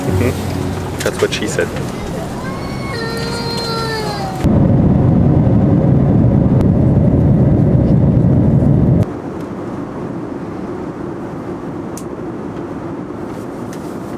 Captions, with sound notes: - Hm? That's what she said. (child crying) (white noise humming)